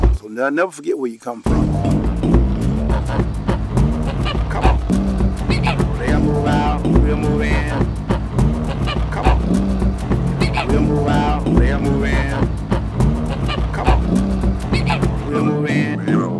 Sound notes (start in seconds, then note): 1.5 geese croaks; 1.5 revving engines